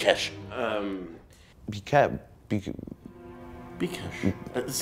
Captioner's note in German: stammelt